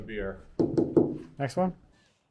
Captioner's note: knocking on glass